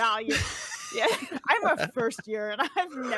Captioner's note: laughs